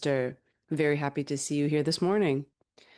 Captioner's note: speaking in French